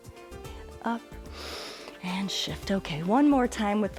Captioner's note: inhales